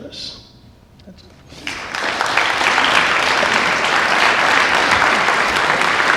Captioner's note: applause